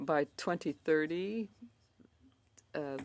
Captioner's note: speaking in French